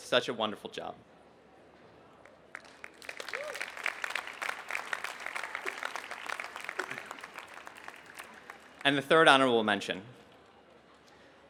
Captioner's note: applause